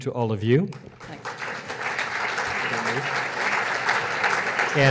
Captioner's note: audience applauds